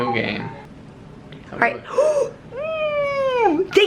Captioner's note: gasps